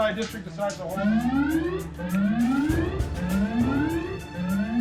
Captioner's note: alarm ringing